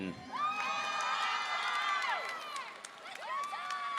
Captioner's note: audience cheering